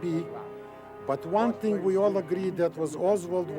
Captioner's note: speaks in foreign language